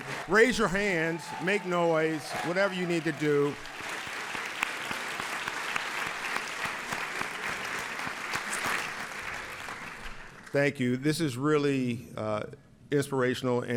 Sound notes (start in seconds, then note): 6.0 audience applauds